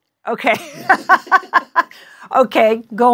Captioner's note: laughing